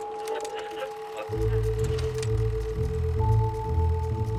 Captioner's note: filmstrip whirring